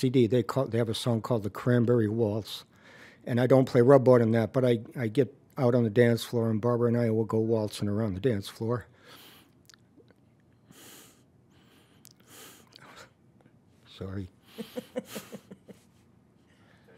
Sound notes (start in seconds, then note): 9.0 sniffling, emotional; 14.5 laughs